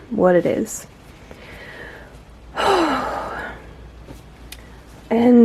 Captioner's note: sigh of relief